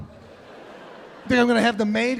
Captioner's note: audience laughing